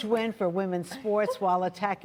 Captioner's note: laughter